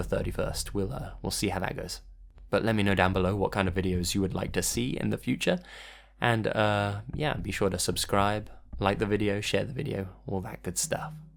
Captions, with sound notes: the 31st. We'll uh, we'll see how that goes. But let me know down below what kind of videos you would like to see in the future (breath intake) and uh, yeah be sure to subscribe, like the video, share the video, all that good stuff.